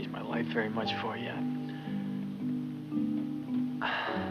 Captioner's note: sighs